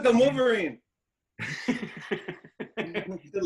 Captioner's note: laughing